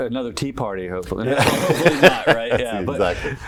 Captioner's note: laughter